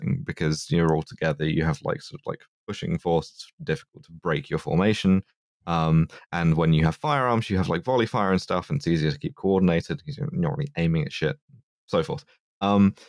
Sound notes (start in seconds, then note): none